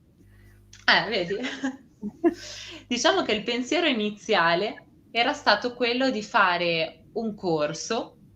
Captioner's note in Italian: risate